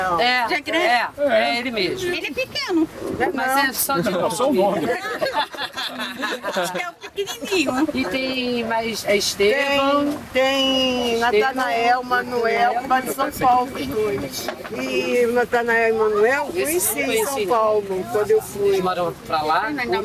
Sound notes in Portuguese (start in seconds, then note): 4.6 risada